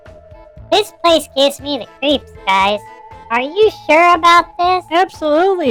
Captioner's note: nervously